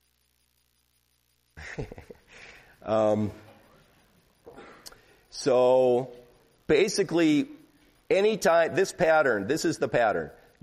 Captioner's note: chuckles